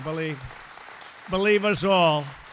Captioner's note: applause